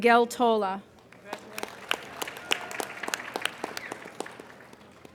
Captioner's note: applauding